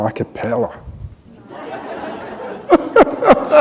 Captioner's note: laughter